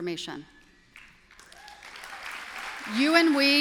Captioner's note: applause